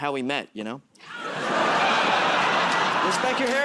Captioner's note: laughter